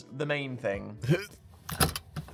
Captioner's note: Dan grunts; lock rattles